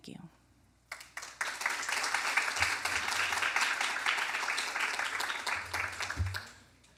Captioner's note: applause